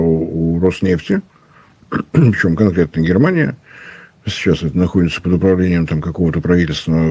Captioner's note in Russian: откашливается